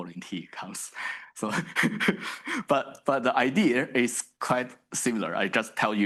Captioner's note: chuckles